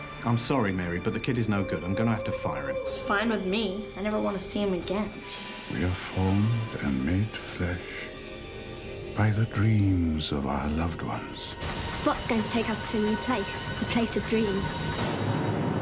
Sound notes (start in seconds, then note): none